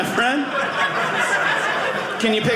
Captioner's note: audience laughing